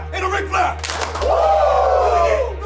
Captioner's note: claps